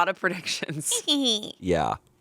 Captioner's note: snickers